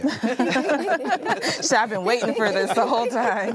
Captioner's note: all laughing